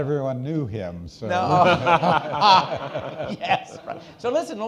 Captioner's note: all laughing